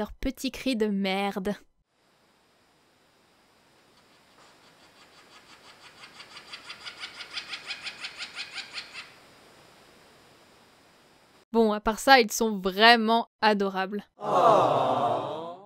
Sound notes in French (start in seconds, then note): 3.6 Cris de margouillat qui se rapproche